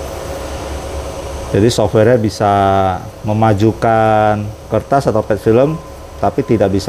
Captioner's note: printer machine noise